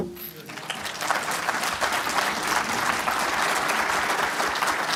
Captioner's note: applause